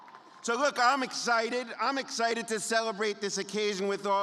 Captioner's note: applause